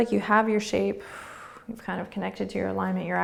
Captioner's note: exhaling